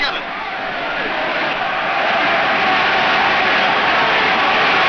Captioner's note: crowd cheers